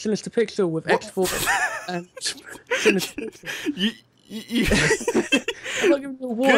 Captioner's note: laughing